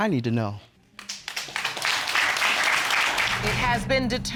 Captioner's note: applause